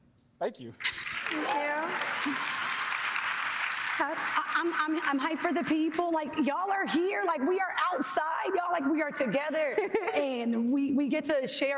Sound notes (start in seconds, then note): 4.0 applause